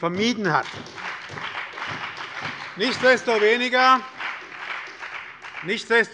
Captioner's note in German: Beifall bei der SPD und der FDP